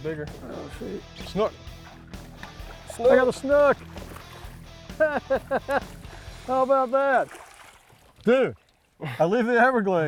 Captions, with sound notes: in his mouth. - Go in. (upbeat country music) (water splashing)